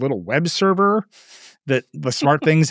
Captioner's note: chuckles